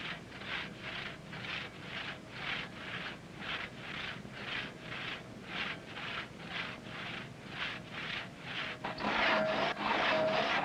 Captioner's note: loud sawing